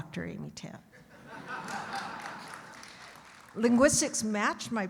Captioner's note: audience laughing